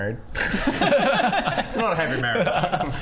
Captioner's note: shifty laughter